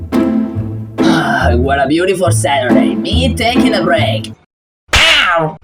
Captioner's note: sigh happily